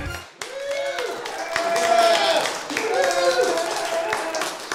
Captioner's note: cheering and Applause